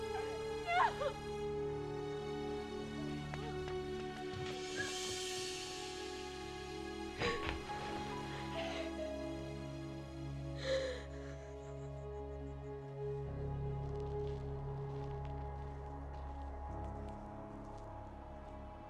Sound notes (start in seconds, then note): 7.2 Grace sobbing; 8.2 somber music